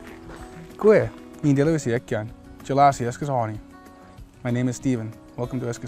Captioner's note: non-english speech